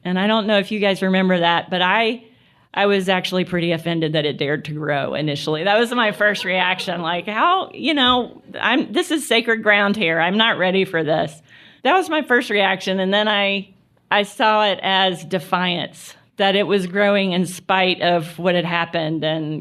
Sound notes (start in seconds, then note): 5.3 laughter